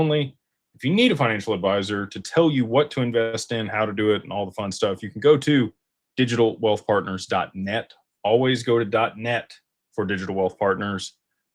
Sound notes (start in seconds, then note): none